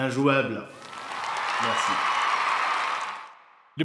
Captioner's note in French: applaudissements